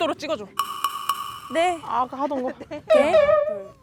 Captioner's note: reluctant sound